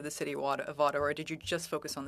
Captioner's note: speaking FRENCH